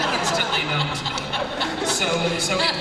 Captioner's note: laughter